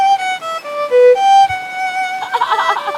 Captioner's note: laughs